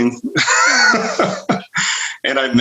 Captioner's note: laughs